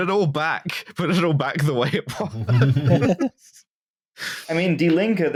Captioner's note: laughter